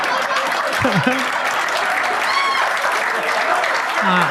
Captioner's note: audience claps